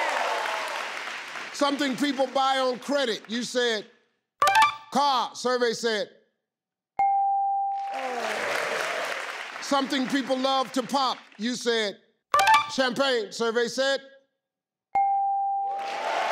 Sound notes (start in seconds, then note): 0.0 crowd cheering; 4.7 ding; 7.0 ding; 7.7 crowd applauding; 12.8 ding; 14.9 ding; 15.7 crowd cheering